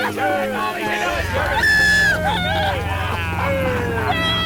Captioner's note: screaming